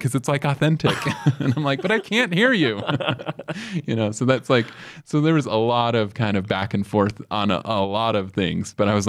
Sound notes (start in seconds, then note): 3.1 both laugh